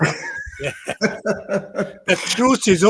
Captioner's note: laughter